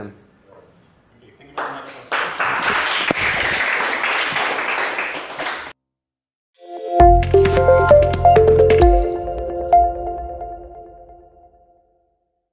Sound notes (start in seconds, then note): 1.5 clapping